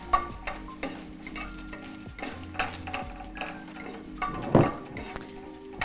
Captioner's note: spatula clanking in pan